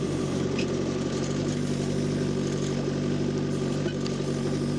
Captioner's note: engine rumbling